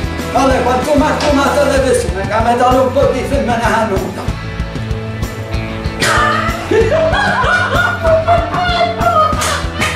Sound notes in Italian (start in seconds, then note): 6.4 risate fuori campo